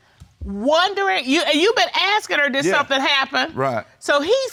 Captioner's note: stammers